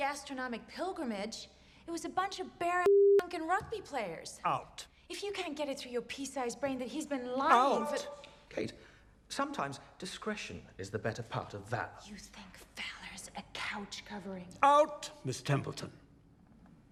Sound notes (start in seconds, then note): none